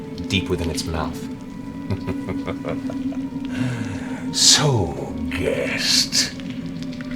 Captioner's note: chuckles